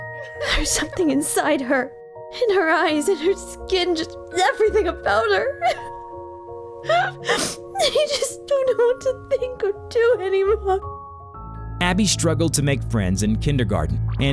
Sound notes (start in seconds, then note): 6.8 sobs